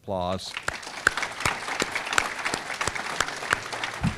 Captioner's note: audience clapping